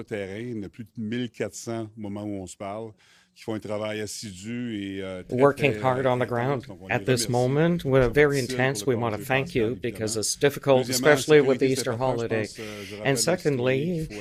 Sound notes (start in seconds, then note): 5.7 speaking FRENCH